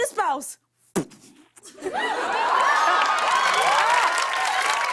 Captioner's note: cheers and applause